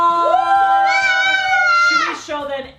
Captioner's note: all cheering